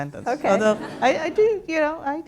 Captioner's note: laughter